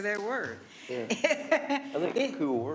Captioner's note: laughing